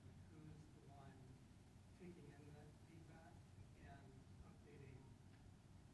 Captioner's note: speaking faintly off mic